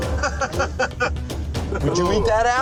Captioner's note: laughs